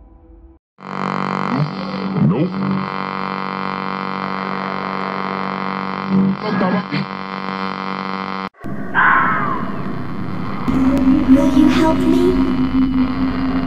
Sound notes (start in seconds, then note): 0.8 static hissing